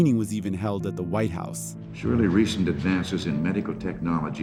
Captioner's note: soundbite of archived recording